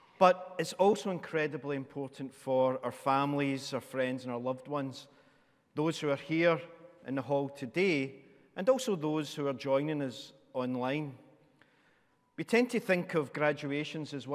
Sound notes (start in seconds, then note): none